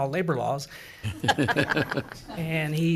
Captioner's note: assembly laughs